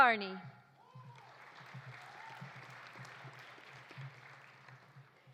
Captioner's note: audience applauding